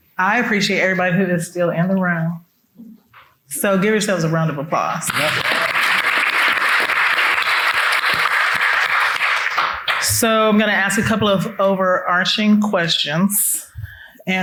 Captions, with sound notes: I appreciate everybody who is still in the room. So give yourselves a round of applause. (people applauding) So I'm gonna ask a couple of overarching questions.